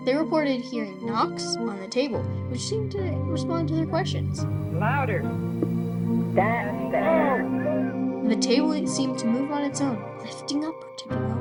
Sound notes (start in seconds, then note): 5.6 single knock; 6.4 group exclaims and gasps